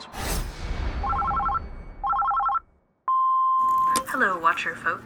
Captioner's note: phone ringing